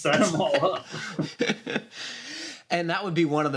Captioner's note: laughter